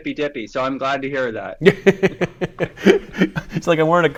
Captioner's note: laughing